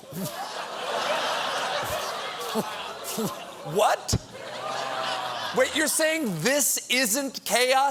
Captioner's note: laughter